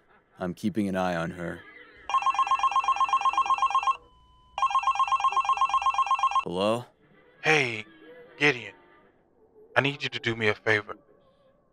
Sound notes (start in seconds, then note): 2.0 phone ringing